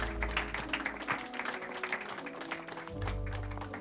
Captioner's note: chuckles